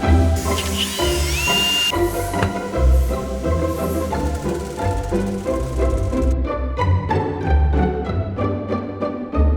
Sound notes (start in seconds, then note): 0.0 drilling; 4.6 soft clicking; 6.8 upbeat music